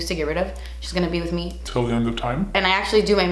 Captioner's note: deep, Demonic voice